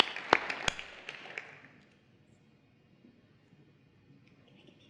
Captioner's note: applause